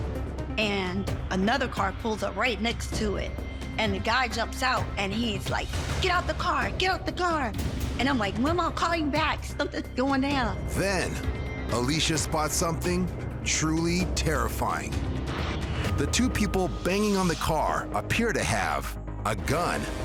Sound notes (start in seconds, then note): none